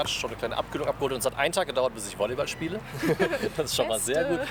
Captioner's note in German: gelächter